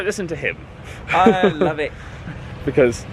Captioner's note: laughing